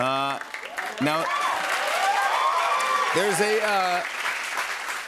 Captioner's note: cheers and applause